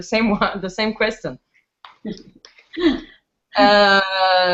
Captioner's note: laughs